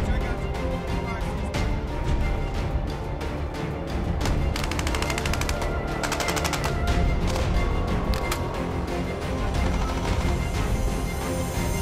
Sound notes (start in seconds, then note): 4.2 gunfire